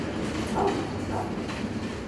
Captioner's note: dogs barking